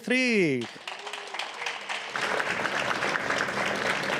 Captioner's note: applause